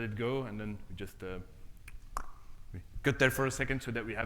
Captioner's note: clicks tongue